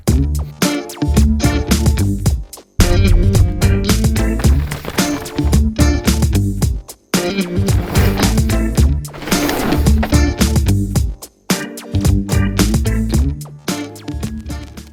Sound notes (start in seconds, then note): 0.1 upbeat techno music; 4.6 bike whooshing